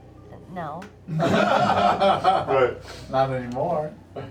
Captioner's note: laughter